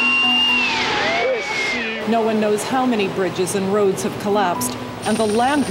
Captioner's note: screaming